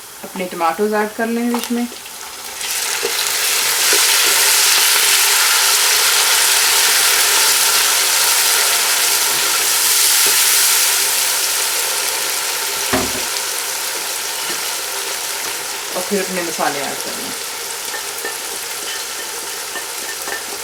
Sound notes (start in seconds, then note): 4.3 sizzling sound